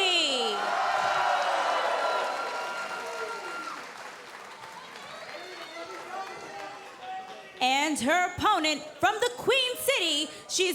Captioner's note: cheers & applause